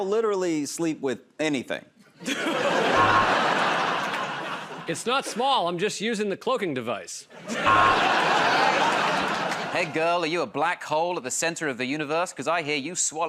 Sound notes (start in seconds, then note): 2.2 laughter and applause; 2.9 buzzer; 7.4 laughter and applause; 7.6 buzzer